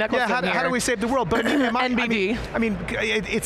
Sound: clears throat

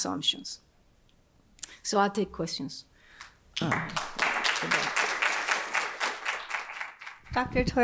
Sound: applause

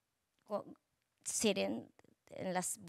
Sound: speaking Spanish

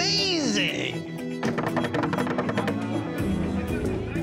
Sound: knocking

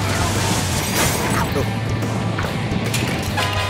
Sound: upbeat music; crash

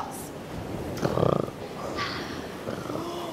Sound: snoring

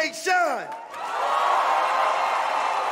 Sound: cheers and applause

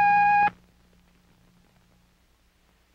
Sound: long beep

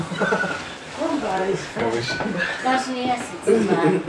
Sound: TV is playing in the background

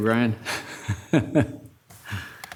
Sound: laughter

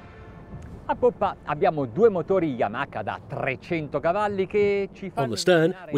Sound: speaking in Italian

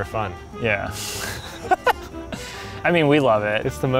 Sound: laughter

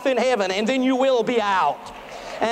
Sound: applause

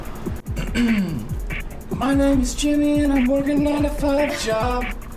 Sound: in robotic voice

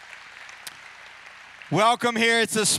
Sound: applause

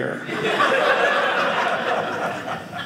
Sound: audience laughing

